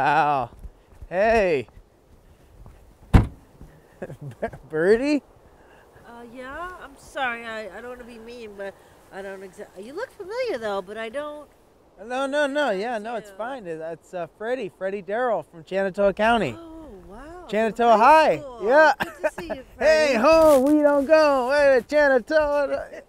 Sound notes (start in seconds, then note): 3.0 trunk slamming